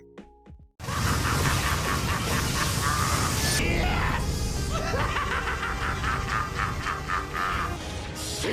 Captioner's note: maniacal Starscream laughter